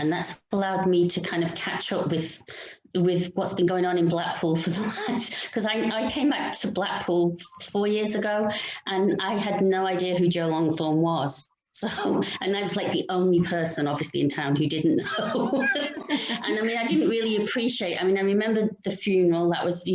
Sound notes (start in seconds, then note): 15.0 laughter